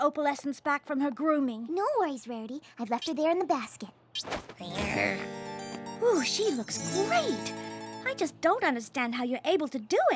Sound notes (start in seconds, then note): 4.7 purrs